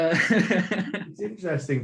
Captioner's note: laughing